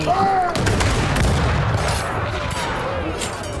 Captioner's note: gunfire